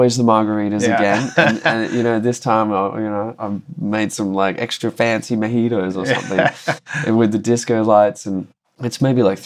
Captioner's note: laughter